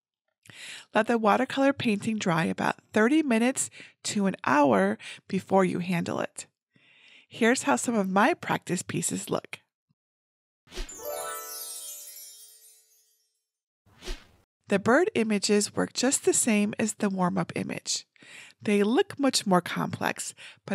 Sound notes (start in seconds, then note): 10.9 chimes twinkling